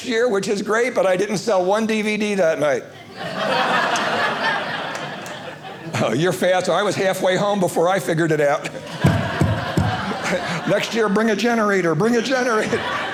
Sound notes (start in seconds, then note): 3.0 audience laughing; 8.6 audience laughing